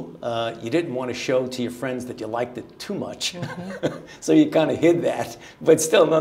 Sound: chuckling

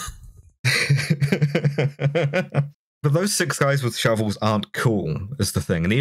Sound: laughter

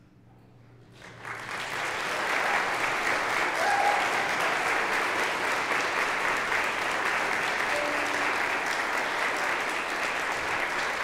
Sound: applause

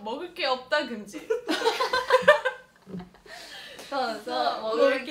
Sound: hehehe

